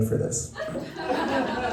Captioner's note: laughter